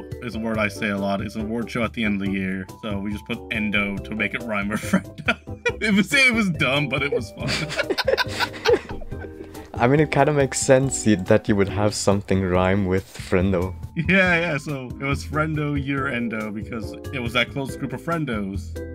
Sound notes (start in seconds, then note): 6.6 both Laughing